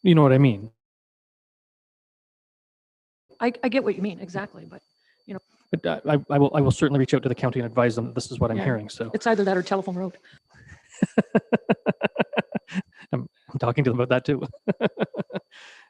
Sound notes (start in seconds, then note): 12.3 laughing